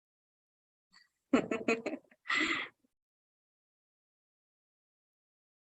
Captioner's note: chuckling